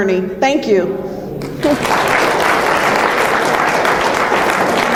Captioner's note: audience applause